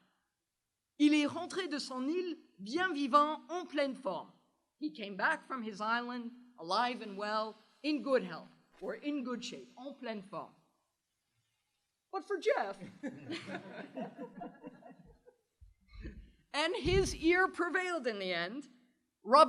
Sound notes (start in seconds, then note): 0.3 speaking french; 11.0 french